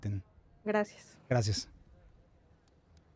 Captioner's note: speaking in foreign language